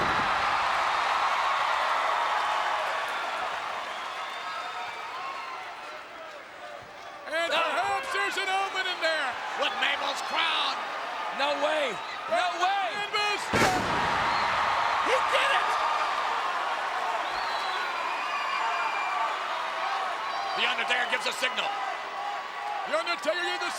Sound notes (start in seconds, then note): 0.1 crowd cheering; 14.0 body thudding